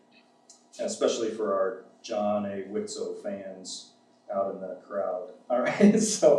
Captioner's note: laughs